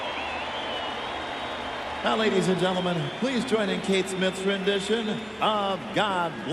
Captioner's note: cheers and applause